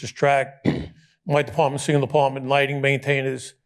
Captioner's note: clears throat